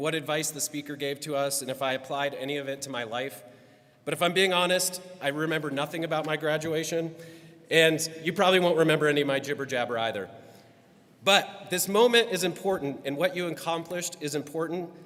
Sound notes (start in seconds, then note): none